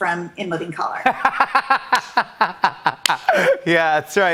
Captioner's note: laughing